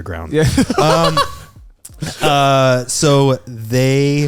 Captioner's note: laughing